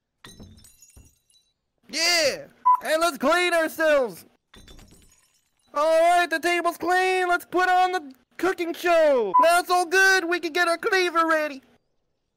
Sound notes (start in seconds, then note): none